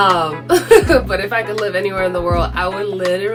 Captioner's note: laughs